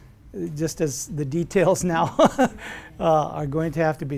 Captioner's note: laughs